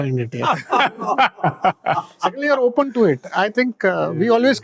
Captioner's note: loud laughter